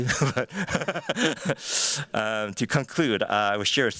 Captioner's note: chuckles